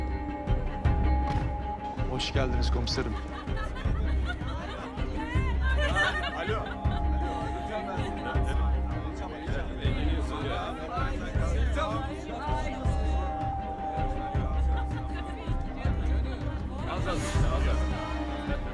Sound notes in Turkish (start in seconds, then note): 2.9 Gülme sesleri; 9.8 Konuşma sesleri